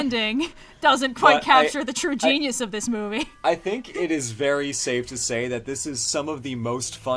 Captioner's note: laughs